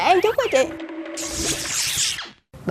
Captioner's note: thunder